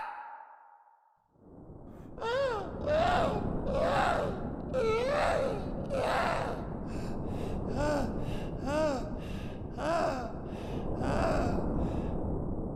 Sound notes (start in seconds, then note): 2.0 grassy sobbing